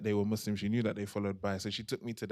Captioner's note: non-english